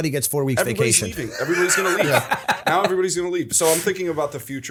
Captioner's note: laughter